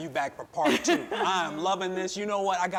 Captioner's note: chuckling